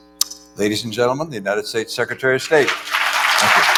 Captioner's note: applause